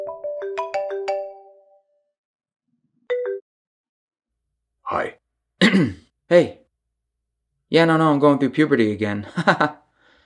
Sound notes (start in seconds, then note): 0.0 phone rings; 4.4 deep voice; 5.6 clears throat; 9.2 laughs